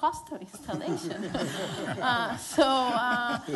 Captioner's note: laughter